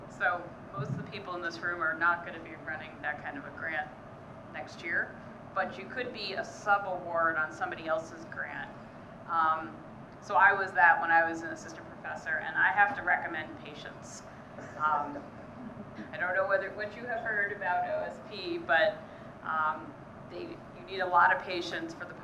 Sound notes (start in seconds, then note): 15.5 audience laughing